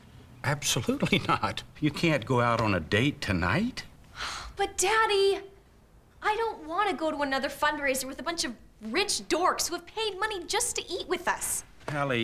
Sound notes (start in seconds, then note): 4.2 sighs